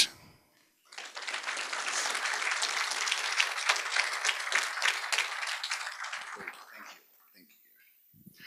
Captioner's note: applause